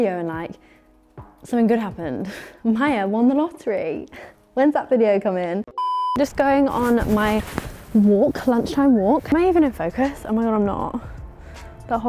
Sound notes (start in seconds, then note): 5.7 screen beeping